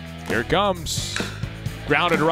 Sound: crack of the bat

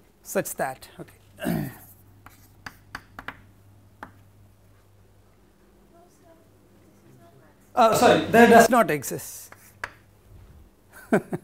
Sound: laughter

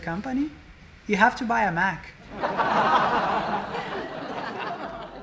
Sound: sitcom laugh

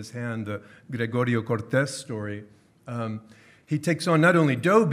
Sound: speaking in foreign language

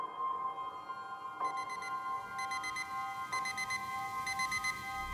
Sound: beeping

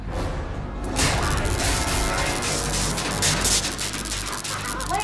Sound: electricity zapping

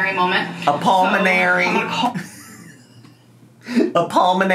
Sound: laughs

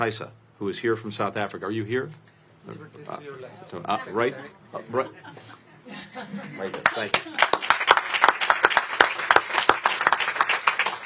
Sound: applause

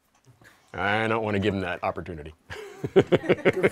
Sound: laughter

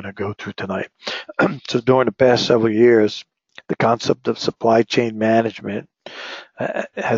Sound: cough

